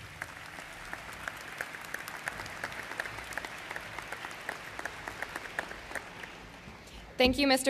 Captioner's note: applause